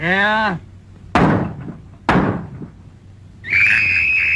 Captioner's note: gun fires; woman screams